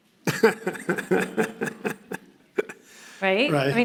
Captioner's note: laughing